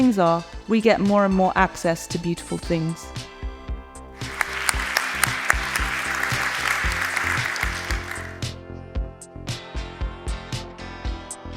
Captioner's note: audience applause